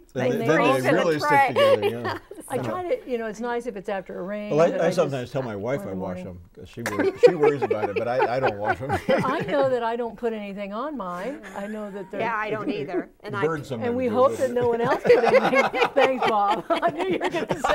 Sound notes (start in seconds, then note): 14.1 laughing